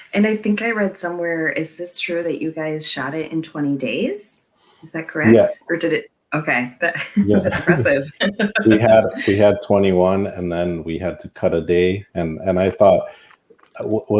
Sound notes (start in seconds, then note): 6.9 laughs